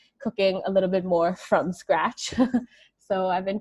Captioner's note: chuckles